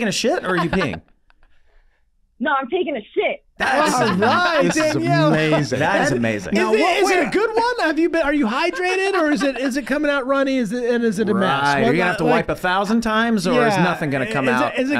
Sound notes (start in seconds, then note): 3.7 Meg laughing